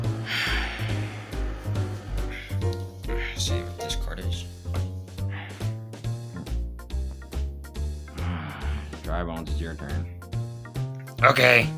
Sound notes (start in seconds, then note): 8.1 another Sigh of Disappointing Cards